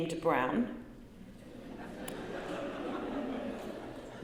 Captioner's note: laughter